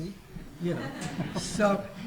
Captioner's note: audience laughs